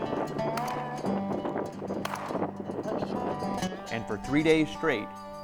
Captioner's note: gunshots